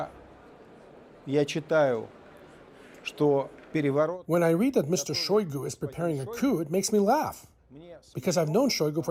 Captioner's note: speaking Alternate Language